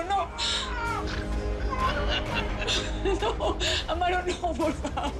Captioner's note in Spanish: Risas